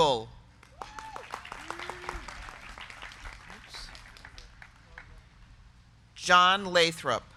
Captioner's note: crowd clapping; crowd cheering